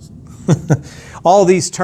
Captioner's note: laughs